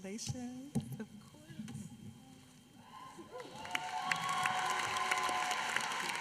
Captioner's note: applause